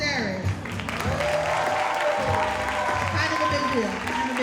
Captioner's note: audience cheering and applauding